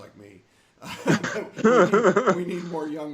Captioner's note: laughing